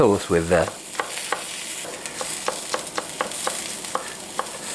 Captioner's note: chopping